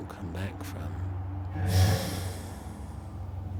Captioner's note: deep breath